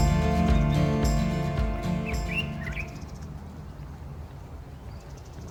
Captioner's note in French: gazouillis d'oiseaux